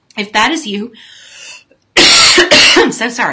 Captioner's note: coughing